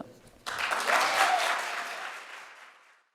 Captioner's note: audience applauds